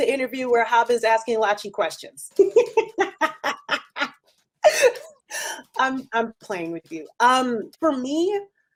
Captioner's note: laughs